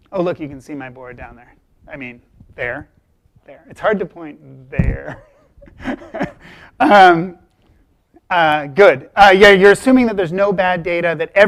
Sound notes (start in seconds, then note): 4.8 chuckles